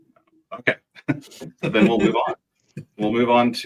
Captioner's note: chuckles